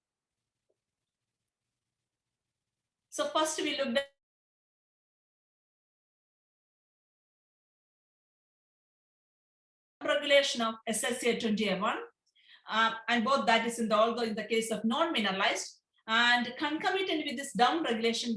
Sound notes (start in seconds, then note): 6.2 audio interrupted